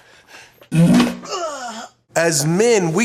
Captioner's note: passing gas with difficulty